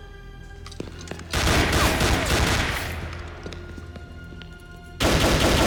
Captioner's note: gunfire clattering